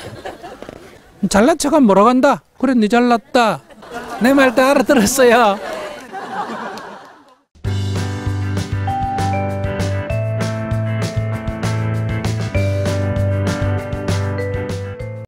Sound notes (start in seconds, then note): 3.2 audience Laughter